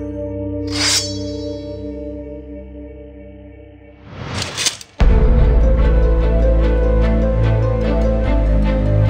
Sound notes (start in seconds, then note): 0.6 sword unsheathes; 4.4 sword clinks; 5.4 dramatic music